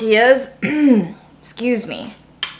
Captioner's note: clears throat